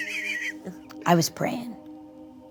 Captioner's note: all laugh